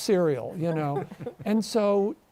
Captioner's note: both chuckle